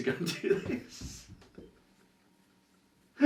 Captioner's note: laughs